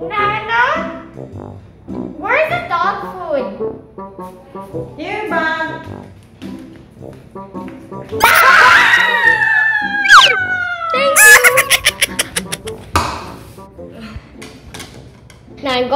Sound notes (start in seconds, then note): 8.2 yells; 8.2 screams; 13.9 laughs